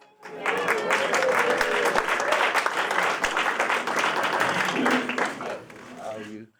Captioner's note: applause